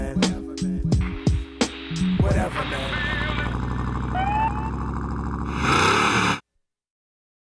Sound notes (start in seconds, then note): 1.6 car engine revving; 4.3 police siren in background